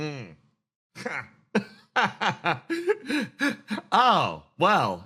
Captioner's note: laughs